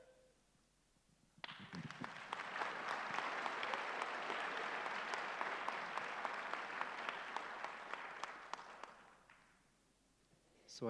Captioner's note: applause